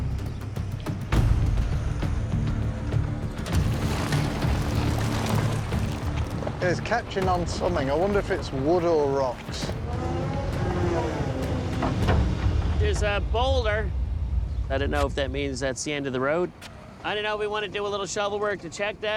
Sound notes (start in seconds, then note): 1.0 dramatic music playing; 9.4 hydraulics whirring